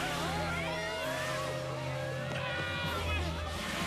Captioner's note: screaming